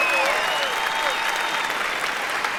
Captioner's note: cheering